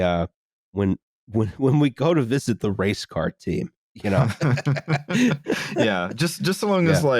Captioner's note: laughter